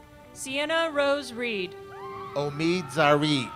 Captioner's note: girls cheer